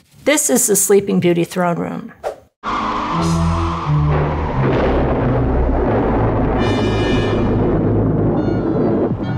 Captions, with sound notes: This is the "Sleeping Beauty" throne room. [dramatic music] [thunder crashing]